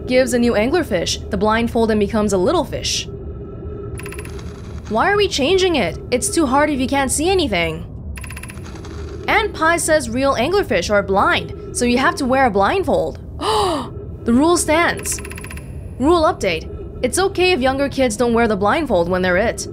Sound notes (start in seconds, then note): 13.3 gasp